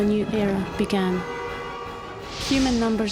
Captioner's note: horns honking